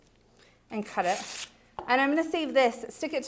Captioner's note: ripping